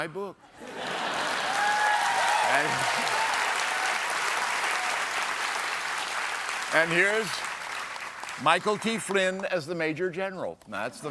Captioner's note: cheers and applause